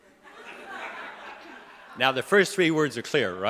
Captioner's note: audience laughing